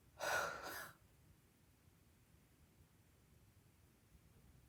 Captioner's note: exhales sharply